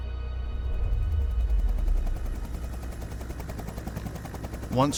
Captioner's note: helicopter blades whirring